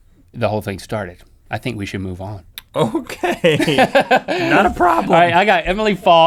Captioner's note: laughs